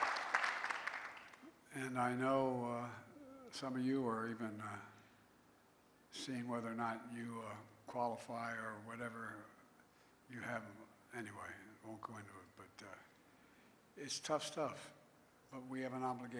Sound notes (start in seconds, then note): 1.9 applause